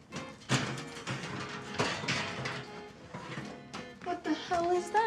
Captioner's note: quirky upbeat music; oven rack clatters